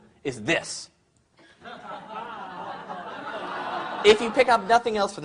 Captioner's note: crowd laughs